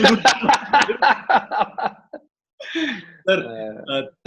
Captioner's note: laughs